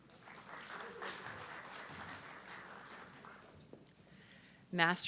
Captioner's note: audience clapping